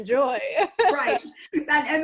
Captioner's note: laughs